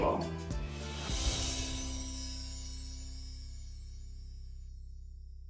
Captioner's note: chimes ringing